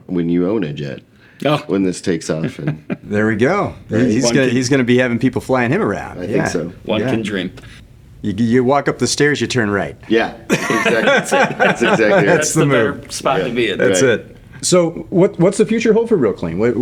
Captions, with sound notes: when you own it yet, when this takes off. There we go. He's gonna be having people flying him around. I think so. One can dream. You walk up the stairs, you turn right. Yeah, exactly. (laughing) That's the nerve. That's the nerve. That's the nerve. That's the nerve. That's the nerve. That's it. So what's the future hold for real clean?